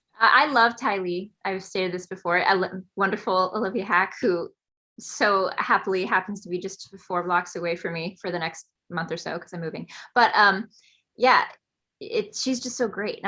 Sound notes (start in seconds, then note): none